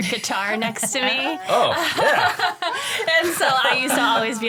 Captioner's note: all laugh